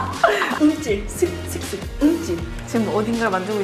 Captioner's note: shudder